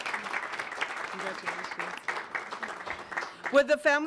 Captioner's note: audience applauds